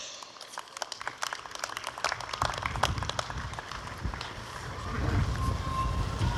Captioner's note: applause